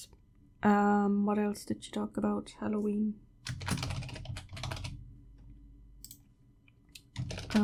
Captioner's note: typing